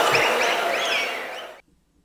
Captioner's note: wild applause and cheering for 22 seconds